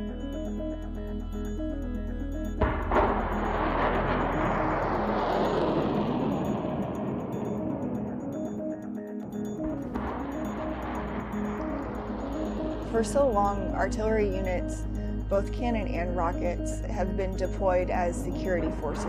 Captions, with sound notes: (Rockets firing) For so long artillery units both cannon and rocket have been deployed as security forces